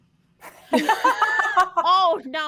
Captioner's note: all laughing